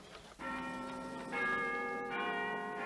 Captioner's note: bells chiming